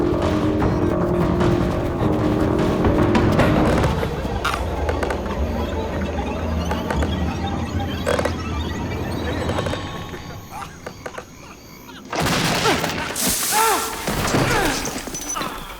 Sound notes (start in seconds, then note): 3.5 wood creaking; 9.6 creaking continues; 12.0 grunting; 15.6 bottles rattling